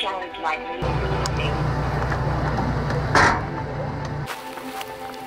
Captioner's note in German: Motor läuft; Schnee knirscht